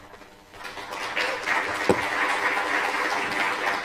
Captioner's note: applause